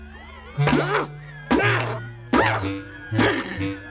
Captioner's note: smashing